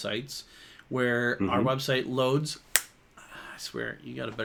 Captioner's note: Jonathan snaps